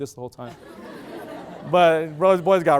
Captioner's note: loud laughter